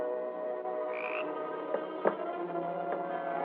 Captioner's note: frog Croaks